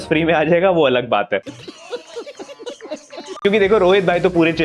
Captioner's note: laughing